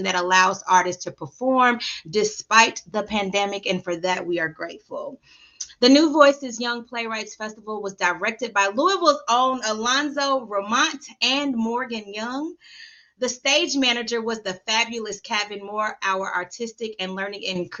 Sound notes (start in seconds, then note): none